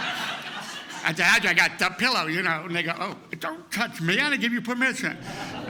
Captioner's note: laughter; laughter